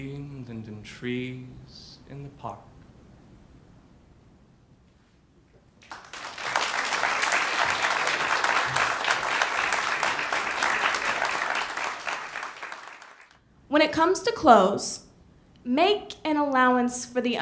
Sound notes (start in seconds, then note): 12.4 ^applause^